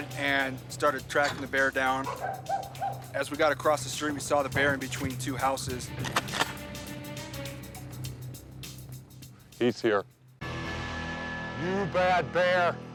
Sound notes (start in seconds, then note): 5.9 gun pump clacking; 7.0 tense music continues